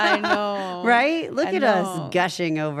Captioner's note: laugh